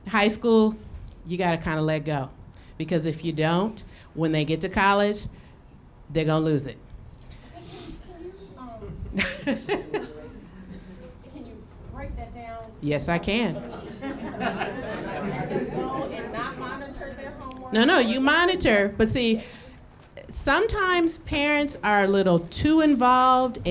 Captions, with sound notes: High school, you gotta kinda let go. Because if you don't, when they get to college they're gon' lose it. (laughing) Can you break that down? Yes, I can. (audience laughing) So, let them go and not monitor their homework? No, no, you monitor. But see, sometimes parents are a little too involved